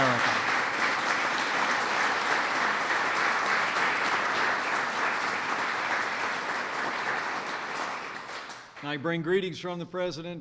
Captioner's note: applause